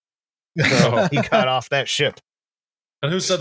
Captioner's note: laughter